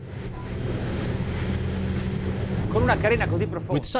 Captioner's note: boat hitting waves; man speaks in foreign language